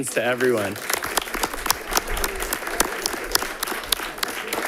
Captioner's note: audience applauding